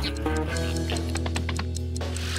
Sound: watch ticking

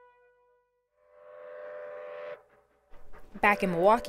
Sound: train whistling

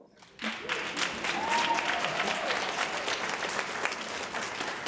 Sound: audience applauds

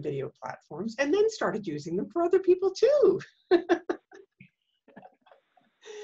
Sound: laughs

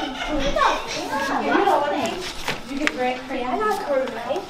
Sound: overlapping chatter

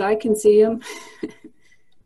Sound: laughs

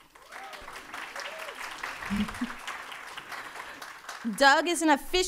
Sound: audience applauding

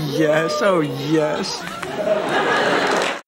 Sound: audience cheering

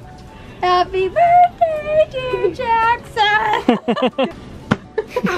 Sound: laughs

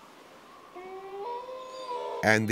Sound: wolf howls

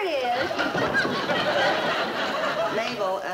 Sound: audience laughing

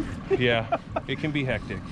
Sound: laughing

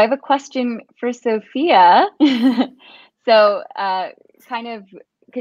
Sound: laughs

